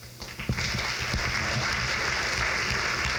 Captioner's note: crowd claps